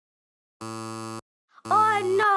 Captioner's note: error sound buzzing